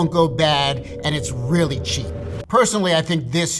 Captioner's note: air whooshing